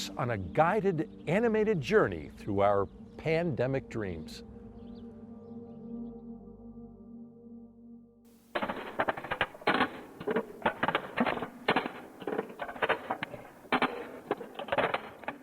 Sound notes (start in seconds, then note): 4.5 ethereal music; 8.5 rackets clacking